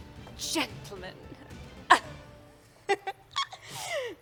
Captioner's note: laughs